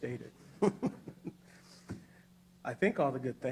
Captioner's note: laughs